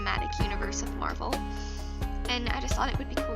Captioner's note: inHAlE